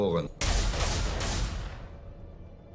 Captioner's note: bang